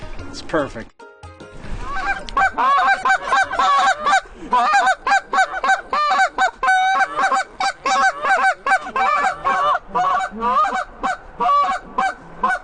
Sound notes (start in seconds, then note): 0.1 laugh; 1.8 goose call